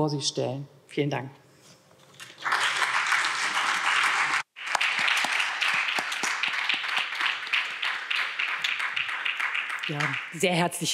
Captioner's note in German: Beifall